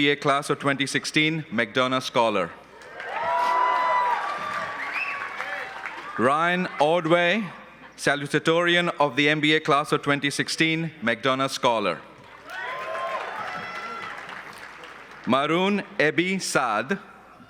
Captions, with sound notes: of 2016, McDonough Scholar. (cheering and applause) Ryan Aldway, Salutatorian of the full-time MBA class of 2016, McDonough Sholar (cheering and applause) Marun Ebisad.